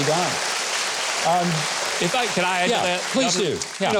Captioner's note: audience applauding